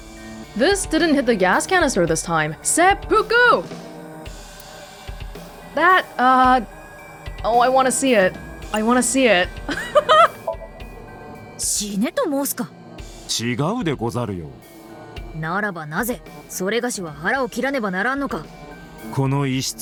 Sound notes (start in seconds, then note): 9.6 chuckles